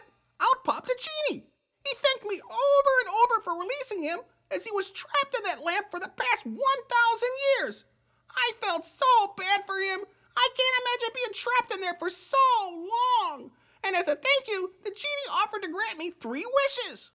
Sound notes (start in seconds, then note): none